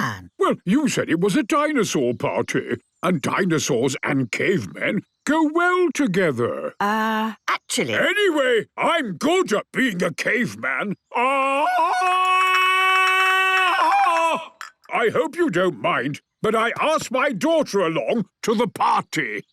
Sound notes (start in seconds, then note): 11.1 Tarzan call